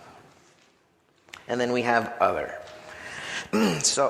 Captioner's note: clears throat